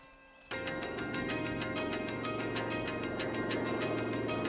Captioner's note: engine whirring